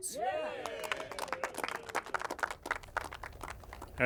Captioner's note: applause